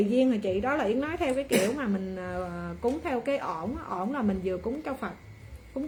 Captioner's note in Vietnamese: hắng giọng